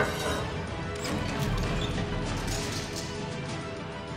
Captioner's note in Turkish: Kapı açılma sesi